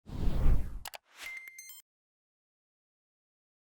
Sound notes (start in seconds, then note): 0.0 logo whooshing